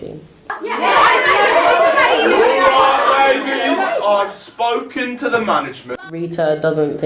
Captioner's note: female actors shouting angrily